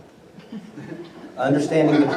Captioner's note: laughter